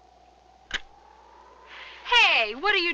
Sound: gun cocking

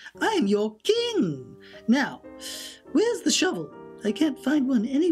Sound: deep inhale

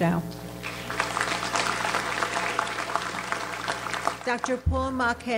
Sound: audience applauds

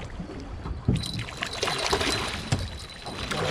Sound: jangling; fish splashing

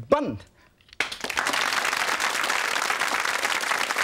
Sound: audience claps

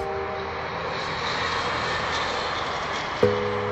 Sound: traffic noises; electronic pop music

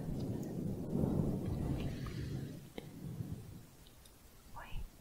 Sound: windy sounds

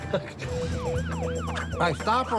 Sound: Si laughs; siren wailing

